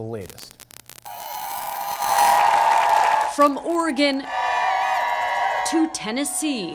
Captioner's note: sound of crowd